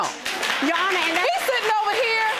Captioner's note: audience applauds